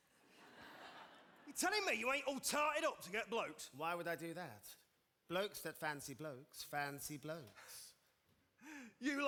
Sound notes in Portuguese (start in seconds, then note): 0.3 audience laughing